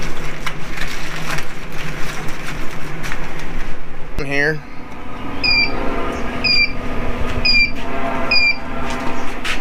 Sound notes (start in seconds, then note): 4.7 grill beeps